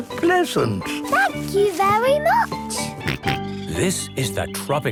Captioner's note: George snorts